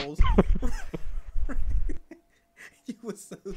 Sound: laughing

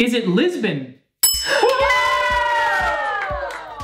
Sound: bell dings

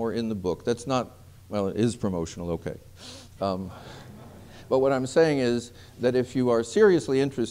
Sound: laughter

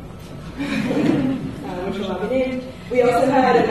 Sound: laughs

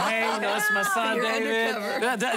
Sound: laughter

